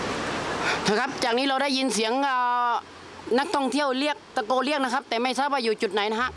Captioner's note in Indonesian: berbicara bahasa Thailand